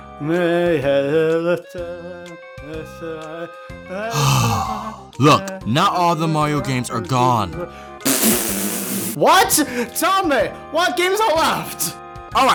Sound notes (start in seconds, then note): 0.3 singing; 4.0 sigh; 8.0 spits